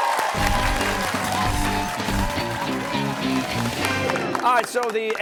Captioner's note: cheers and applause